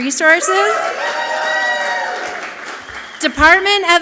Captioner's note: audience clapping and cheering loudly